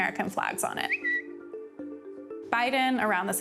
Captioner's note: phone notification